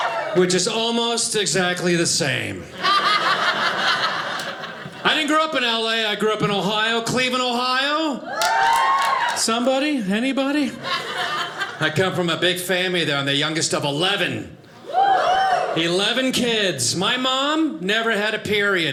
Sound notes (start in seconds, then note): 2.7 audience laughing